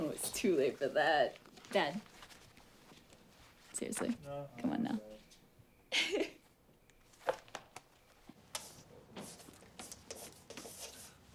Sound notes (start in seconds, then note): 5.9 Eliza laughs